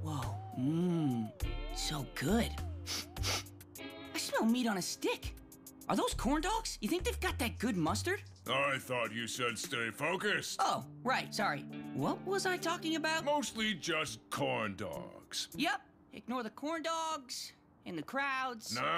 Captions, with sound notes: Oh! Mmm... So good. [sniffing] I smell meat on a stick. Are those corn dogs? You think they've got that good mustard? I thought you said stay focused. Oh, right! Sorry. What was I talking about? Mostly just corn dogs. Yep, ignore the corn dogs and the crowds and...